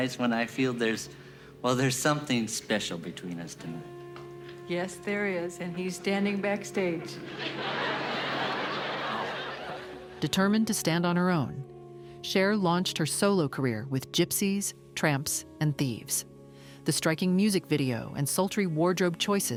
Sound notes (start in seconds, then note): 7.0 laughter